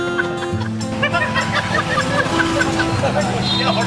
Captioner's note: laughing